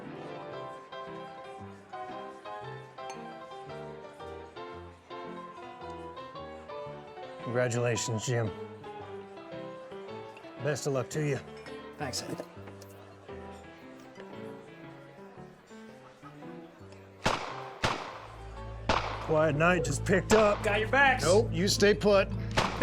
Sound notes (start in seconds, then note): 0.2 saloon music plays in background; 13.4 saloon music plays in background; 17.2 gunshots outside